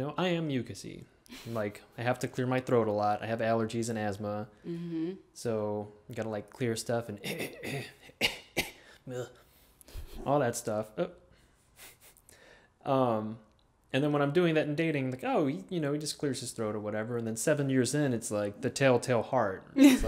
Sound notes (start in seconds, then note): 7.2 coughs; 7.4 clears throat; 12.0 laughs